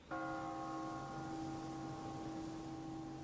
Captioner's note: bell tolling